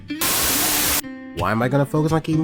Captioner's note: Static